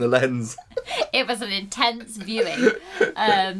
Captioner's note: giggles